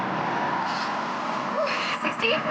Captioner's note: traffic roaring